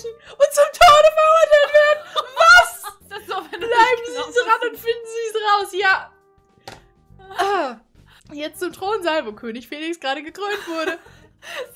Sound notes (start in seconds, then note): 1.3 laughter